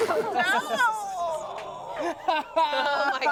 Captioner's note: everyone laughs